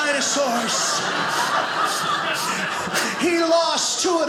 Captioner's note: audience laughing